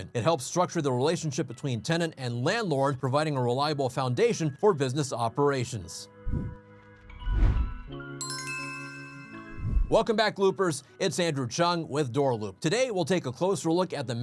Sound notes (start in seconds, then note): 6.3 light music; 8.2 logo chiming